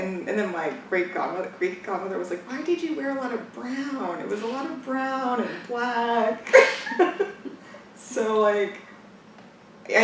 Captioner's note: laughs